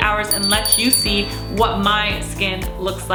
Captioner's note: bell rings